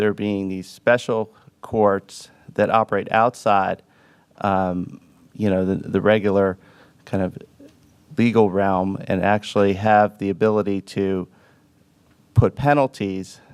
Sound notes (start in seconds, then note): none